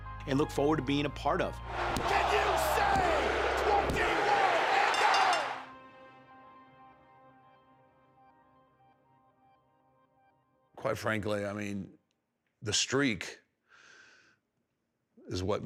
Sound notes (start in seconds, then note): 4.7 bell rings; 5.4 pensive music